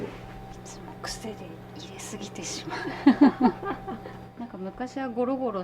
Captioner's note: laughs